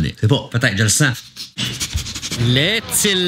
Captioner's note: sniff sniff sniff